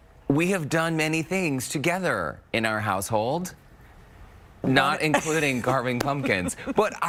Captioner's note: laughter